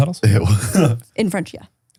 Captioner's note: chuckles